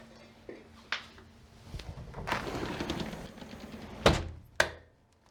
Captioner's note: quiet clattering; window slides closed